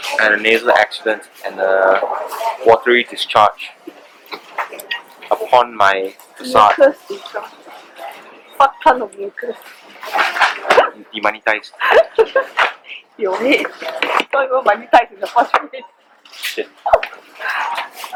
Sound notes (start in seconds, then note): 11.7 laughs; 16.3 laughs like a mad woman